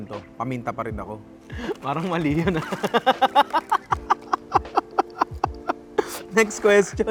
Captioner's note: laughs